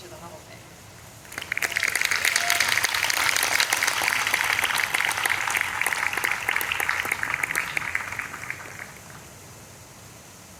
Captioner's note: clapping and cheering